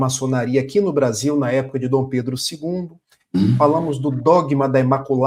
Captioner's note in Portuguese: limpando a garganta